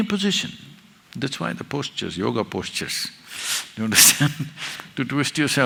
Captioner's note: laughs